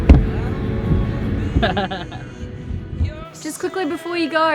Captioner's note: laughing